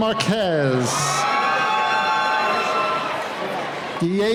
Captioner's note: cheering